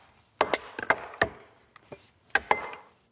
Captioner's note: none